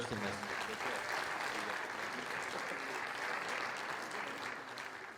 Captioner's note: audience applauds